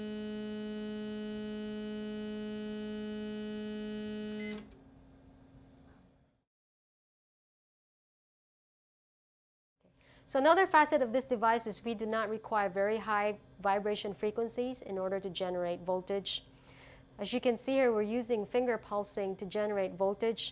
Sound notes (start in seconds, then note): 0.0 buzz; 4.4 beep